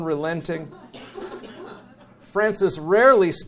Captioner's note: audience chuckles